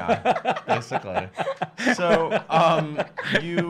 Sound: laughing

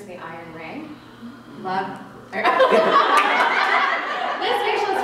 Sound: gasps; laughter

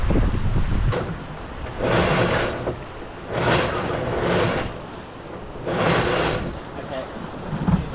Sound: wind and wave noise; winch noise furling in genoa

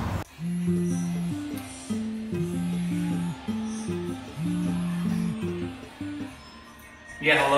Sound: cell phone ringing

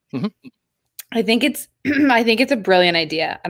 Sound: clears throat

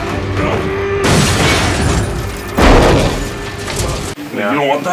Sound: window breaks

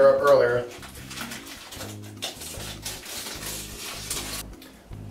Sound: tape being pulled

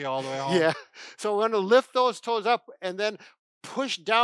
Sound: chuckles

